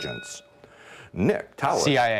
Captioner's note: ding